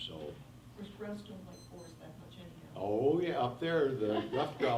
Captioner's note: faintly speaking